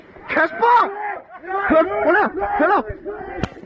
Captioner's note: guys screaming run in the background